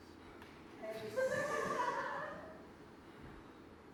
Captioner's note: audience laughs